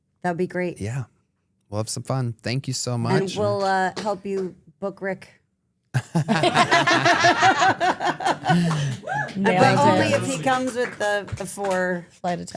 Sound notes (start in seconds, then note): 6.0 everyone laughs